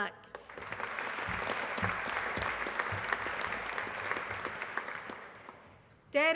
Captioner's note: applause